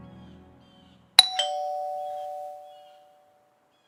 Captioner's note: doorbell